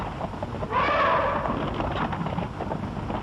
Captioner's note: elephants trumpeting